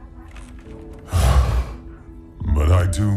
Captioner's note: sigh